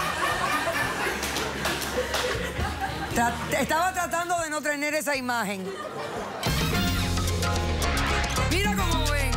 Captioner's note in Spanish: Risas del público